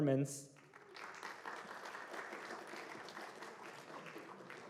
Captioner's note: applause